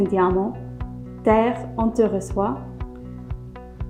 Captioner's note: French